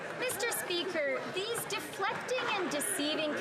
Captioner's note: some Applause